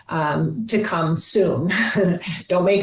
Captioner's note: chuckles